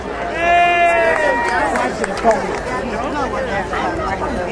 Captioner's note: crowd cheering